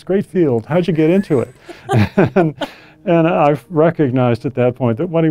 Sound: laugh

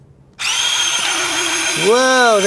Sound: Kurara washer whirring

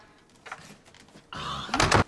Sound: disgusted noise

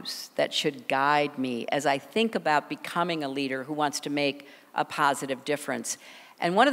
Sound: none

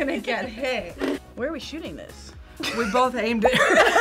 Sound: group laughs; laughs

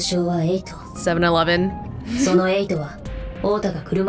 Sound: chuckles

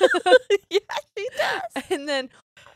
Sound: both laughs

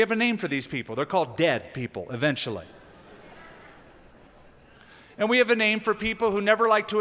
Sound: laughter

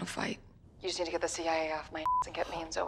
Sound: beep

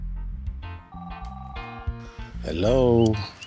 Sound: phone rings softly

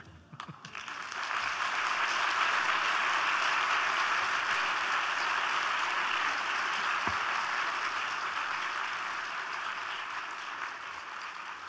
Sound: applause

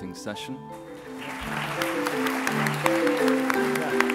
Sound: applause

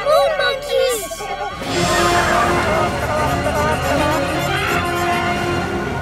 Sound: chattering

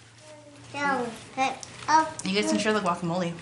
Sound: child babbling

